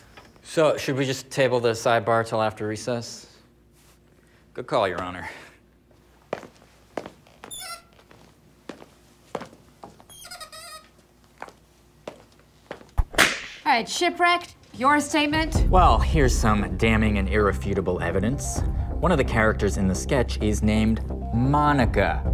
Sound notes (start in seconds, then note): 7.4 marker squeegies; 10.0 another squeak; 13.1 whip sound effect